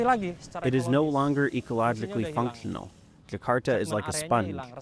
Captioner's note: through translator